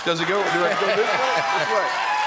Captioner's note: cheering